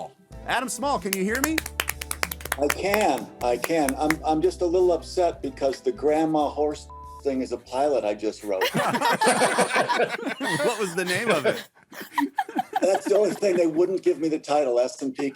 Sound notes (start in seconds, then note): 1.0 clapping; 8.6 laughing